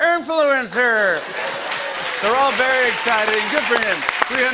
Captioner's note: cheers and applause